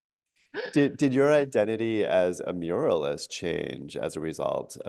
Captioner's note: laughs